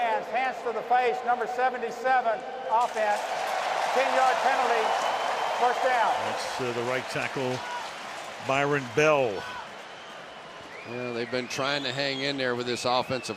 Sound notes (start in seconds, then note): 3.6 cheering